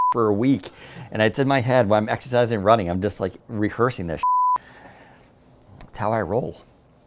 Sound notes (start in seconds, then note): 4.2 beep